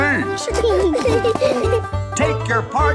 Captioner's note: laughing